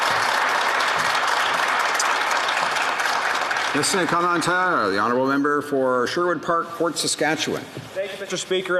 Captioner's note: some Applause